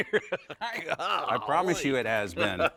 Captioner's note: laughs